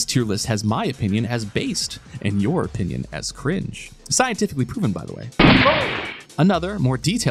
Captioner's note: gunshot